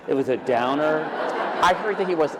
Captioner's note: laughter